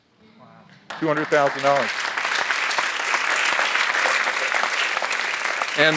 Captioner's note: audience applauds